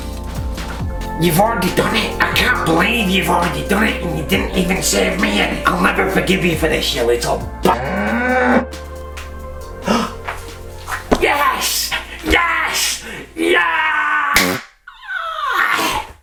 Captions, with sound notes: You've already done it? I cannot believe you've already done it and you didn't even share me in. I'll never forgive you for this, you little bugger. Yes! Yes! Yeah! (popper goes pffft)